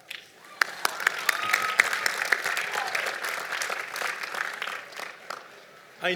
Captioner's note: applause